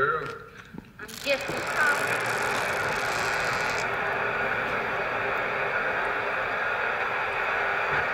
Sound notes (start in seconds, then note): 1.0 antenna creaking; 1.1 white noise begins